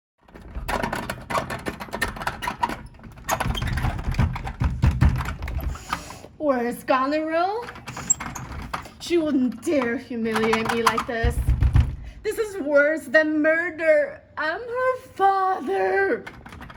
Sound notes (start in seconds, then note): 3.3 bangs on door; 10.4 more knocking